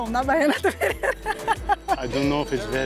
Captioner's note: laughs